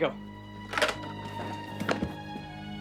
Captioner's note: phone thudding; tense music